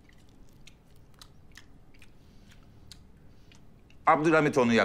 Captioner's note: oral smack of sound